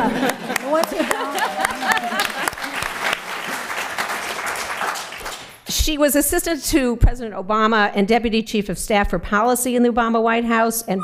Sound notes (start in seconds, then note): 0.0 laughter; 0.0 applause